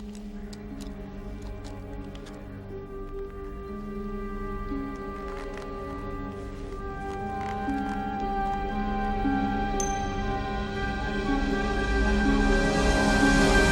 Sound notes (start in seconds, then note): 0.2 dramatic music; 5.4 leather crunching